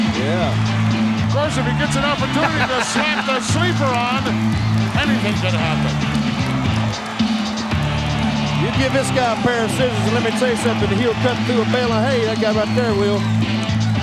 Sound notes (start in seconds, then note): 2.4 hillbilly chuckling; 7.1 upbeat music